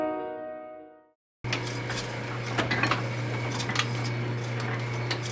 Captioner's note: machinery whirring